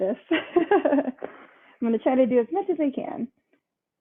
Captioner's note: laughs